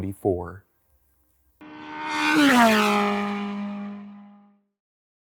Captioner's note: engine roaring and zooming